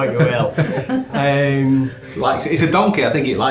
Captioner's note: laughing